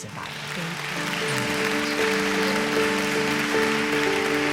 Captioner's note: audience applauds